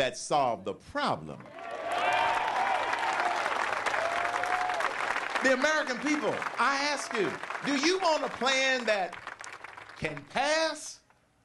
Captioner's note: cheering and applause